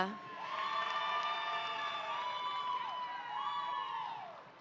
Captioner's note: audience applauding